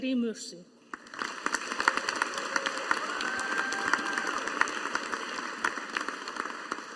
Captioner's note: audience applauding